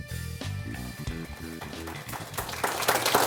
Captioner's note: applause